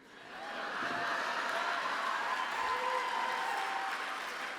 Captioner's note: laughter